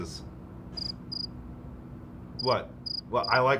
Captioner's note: crickets chirping